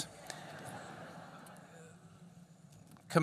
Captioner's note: laughter